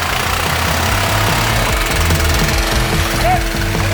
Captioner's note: engine revving